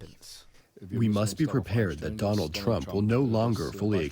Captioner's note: through translator